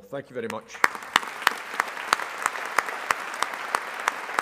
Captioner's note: all applauding